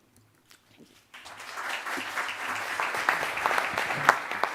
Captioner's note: audience applauds